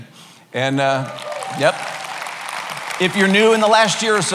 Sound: cheering

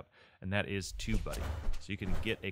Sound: mechanical sounds

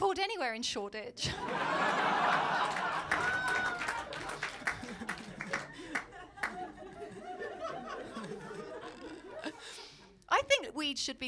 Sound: laughter & applause

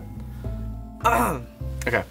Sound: clears throat

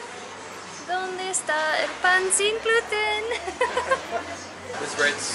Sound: laughter

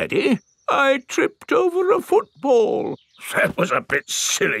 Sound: in normal voice; in teddy's voice; in normal voice

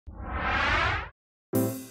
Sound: wind whooshes; piano jazz music

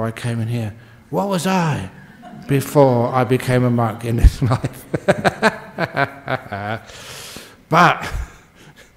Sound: Ajahn laughs

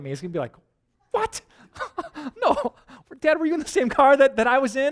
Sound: pastor: Laughter

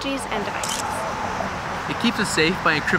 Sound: sound of camera clicking drowns out speaker

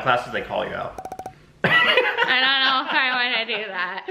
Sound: laughing

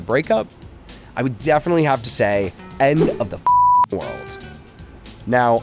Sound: beep

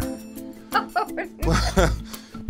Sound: Linda laughs

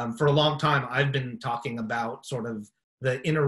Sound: none

